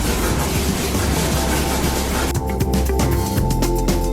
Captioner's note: upbeat music; bristles scraping; upbeat music